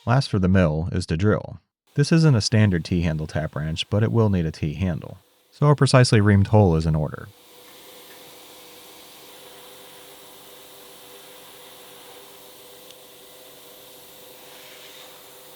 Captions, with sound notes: Last for the mill is to drill. This isn't a standard T-handle tap wrench, but it will need a T-handle, so a precisely reamed hole is in order. (machine whirring)